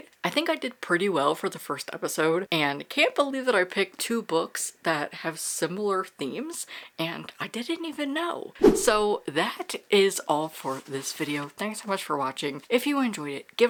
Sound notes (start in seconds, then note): 8.6 whoosh